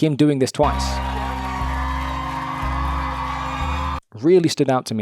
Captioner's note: audience applauding and cheering